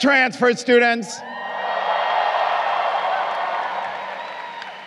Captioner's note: crowd cheering